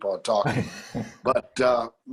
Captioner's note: laughter